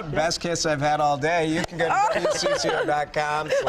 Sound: laughter

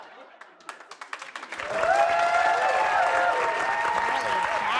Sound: audience applauds and cheers

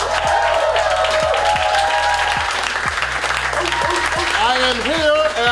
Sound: crowd cheers and claps

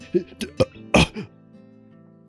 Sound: belches

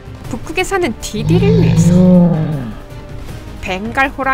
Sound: roar

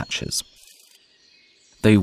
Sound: sounds of nature

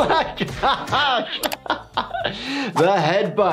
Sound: laughs

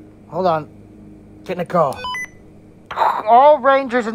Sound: beep Sound from Radio

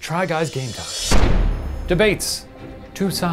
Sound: gavel bangs

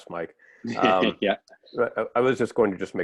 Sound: laughter

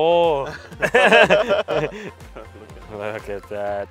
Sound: laughing

